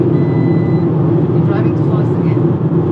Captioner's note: peep sound